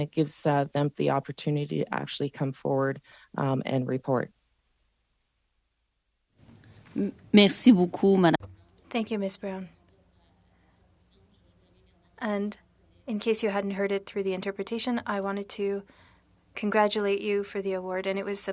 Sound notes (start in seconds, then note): 13.1 speaking French